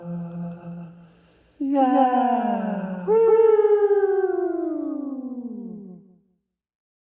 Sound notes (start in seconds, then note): 5.1 humming